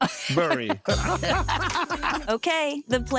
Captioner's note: laughing